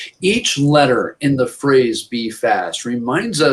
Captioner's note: speaking in Foreign Language